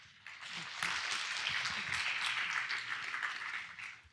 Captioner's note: audience applause